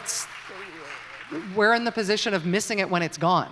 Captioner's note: applause